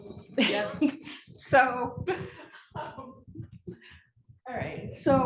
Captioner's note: laugh